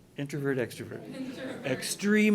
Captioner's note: voiceover